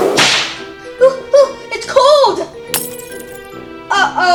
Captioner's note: glass shatters